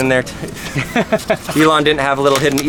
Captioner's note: laughs